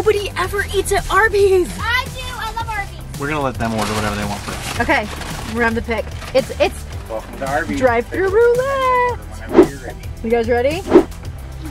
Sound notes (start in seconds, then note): 7.8 voice in Speakerphone